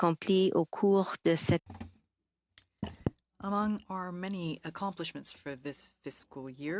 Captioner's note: speaking French